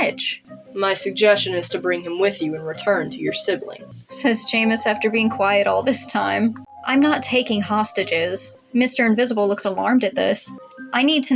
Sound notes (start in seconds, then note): none